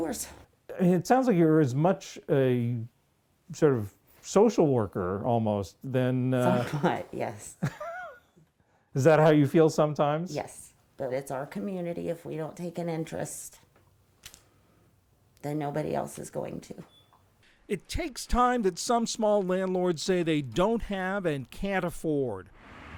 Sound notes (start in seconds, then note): 7.5 laughter